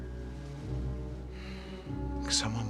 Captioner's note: Menghela napas